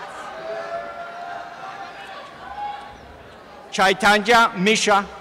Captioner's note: applause and cheering